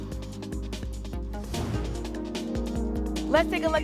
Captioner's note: whoosh